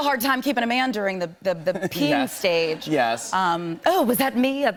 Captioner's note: laughs